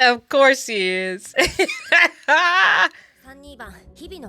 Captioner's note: laughing